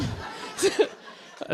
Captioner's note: laughter